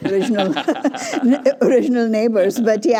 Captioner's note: laughter